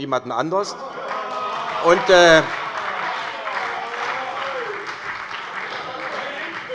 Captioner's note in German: Beifall und Zurufe bei der SPD